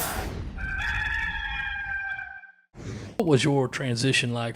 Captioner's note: rooster crows